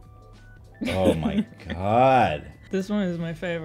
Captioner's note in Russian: смеётся